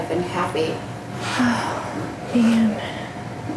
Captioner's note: exhales